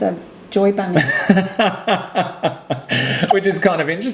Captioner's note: laughing